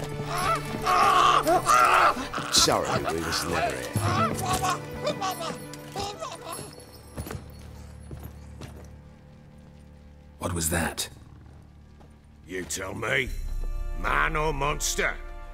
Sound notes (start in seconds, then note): 0.2 yelling; 4.6 babbling fades